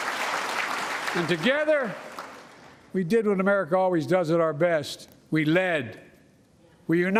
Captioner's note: applause